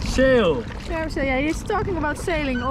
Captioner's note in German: murmelt